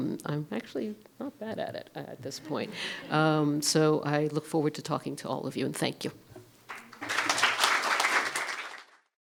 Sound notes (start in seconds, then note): 6.6 applause